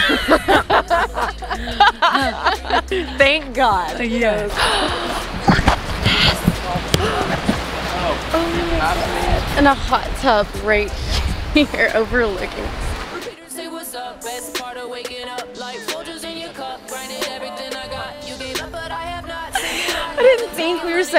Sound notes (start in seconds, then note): 0.0 hearty laughing; 4.5 gasps